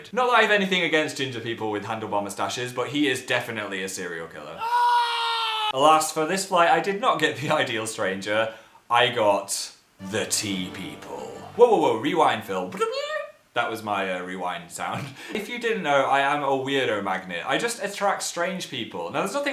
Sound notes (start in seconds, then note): 4.6 scream; 10.0 dramatic sound; 12.9 makes rewind sound